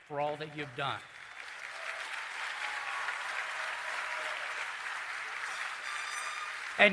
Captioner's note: cheering and Applause